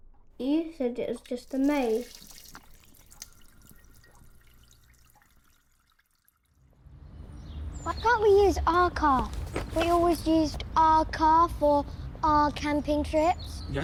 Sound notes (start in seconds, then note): 1.0 water running